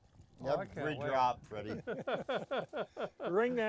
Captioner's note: laughing